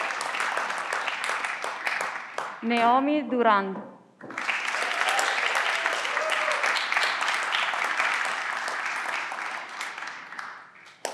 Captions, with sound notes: Naomi Durand. (everyone claps)